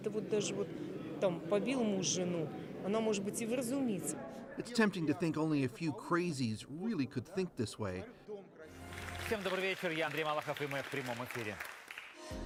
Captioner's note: speaking russian